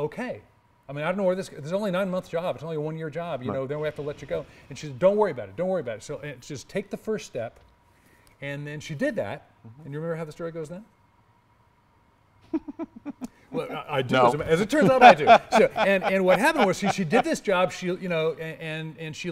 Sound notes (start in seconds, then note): 12.5 laugh